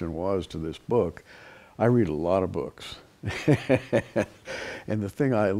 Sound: chuckles

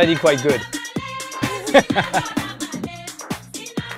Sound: laughs

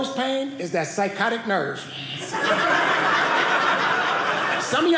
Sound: audience laughing

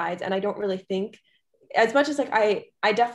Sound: none

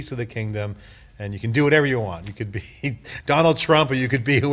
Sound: laughing

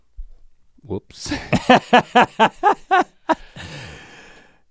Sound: Rhett laughs

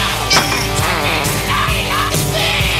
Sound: newspaper hits

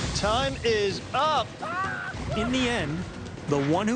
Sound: entrepreneur screams

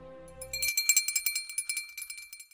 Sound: bell rings

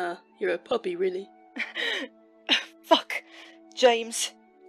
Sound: Remus half laughs, half sobs

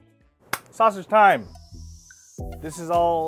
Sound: hands clapping

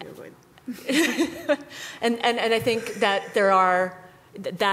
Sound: laughter

